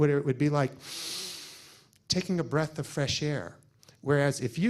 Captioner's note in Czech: zhluboka se nadechne